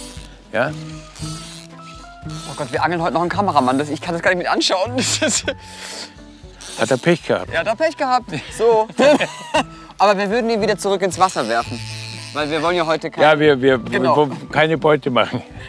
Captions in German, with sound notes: Ja? Gott, wir angeln heute noch einen Kameramann. Ich kann das gar nicht mitanschauen. Hatte er Pech. - Pech gehabt. So. (Beide lachen.) Aber wir würden ihn zurück ins Wasser werfen. Weil wir wollen heute ... - Ja, keine Beute machen.